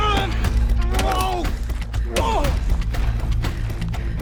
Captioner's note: dramatic music; both moaning; dramatic music